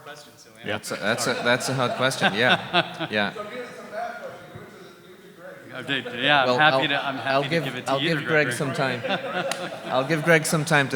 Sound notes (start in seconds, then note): 2.9 audience laughing; 5.7 audience laughing